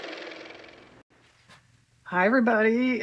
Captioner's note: car motor